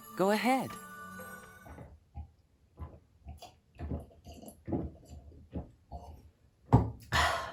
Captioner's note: glug glug glug